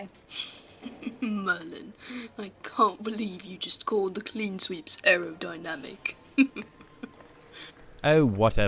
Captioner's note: James laughs